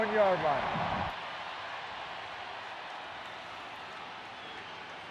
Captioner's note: cheering